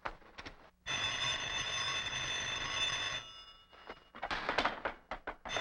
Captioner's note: telephone ringing